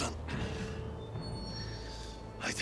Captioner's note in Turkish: İnleme sesi